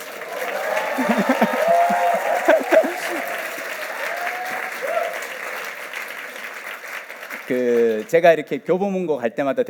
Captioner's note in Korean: 박수와 환호